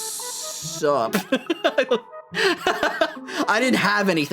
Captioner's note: laughter